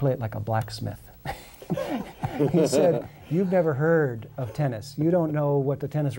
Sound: laughter

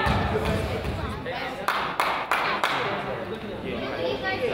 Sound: crowd claps

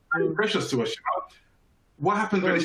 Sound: chuckles

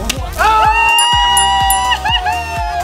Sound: cheering; bell chiming

